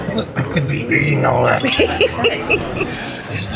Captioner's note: laughter